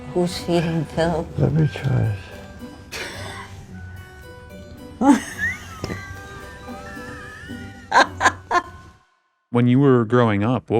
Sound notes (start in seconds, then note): 5.0 wheezing and laughing